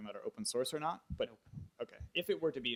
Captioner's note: voiceover